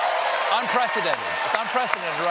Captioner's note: applause